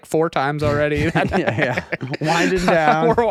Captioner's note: laughing